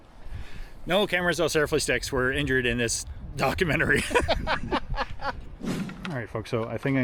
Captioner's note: laughing